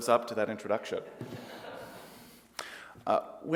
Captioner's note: light laughter